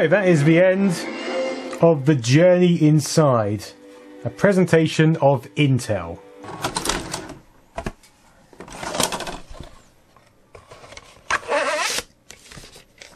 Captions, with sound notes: That is the end of the journey inside. A presentation of Intel. [sweet, sweet, mechanical eject sounds] [satisfying sounds of sliding plastic and card]